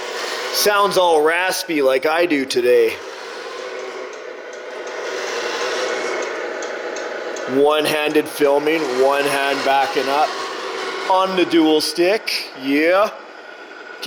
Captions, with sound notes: It sounds all raspy like I do today. (truck engine roars) One-handed filming, one hand backing up on the dual stick, yeah.